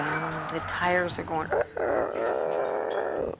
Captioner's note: groans